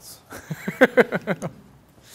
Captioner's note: laughs